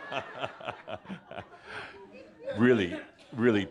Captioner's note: more laughter and Adamus chuckles